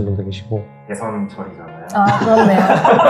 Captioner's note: laugh